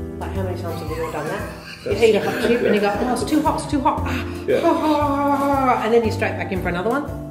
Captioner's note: laughter